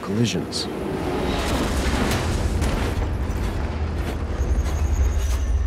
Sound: metal crunching

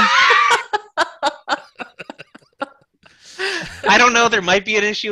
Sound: laughter

